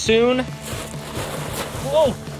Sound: rocks crackle underfoot

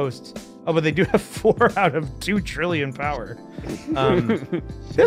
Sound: laughs

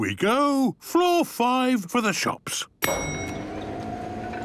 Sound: elevator dinging

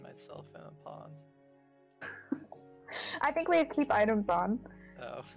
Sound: laughs

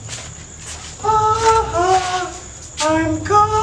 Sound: makes scary sounds

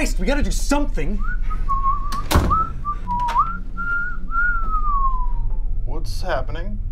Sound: Wyatt whistling; door closes; door opens

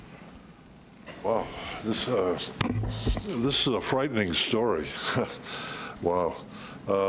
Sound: chuckles

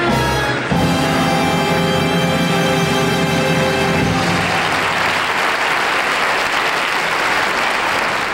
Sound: audience clapping

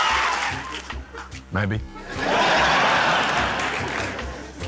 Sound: laughter

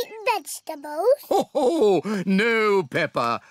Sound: laughs

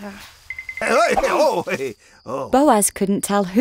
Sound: Boaz startled laughter

